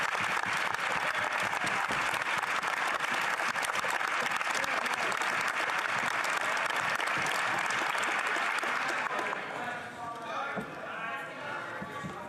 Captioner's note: some Applause